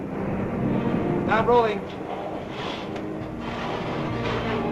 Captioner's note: engine starts